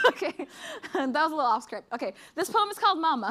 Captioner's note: laughs